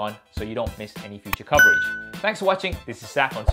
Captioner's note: bell dings